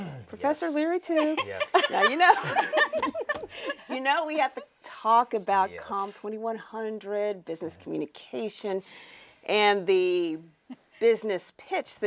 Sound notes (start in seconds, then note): 1.2 laughs